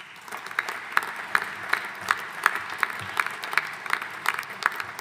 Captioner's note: audience applauding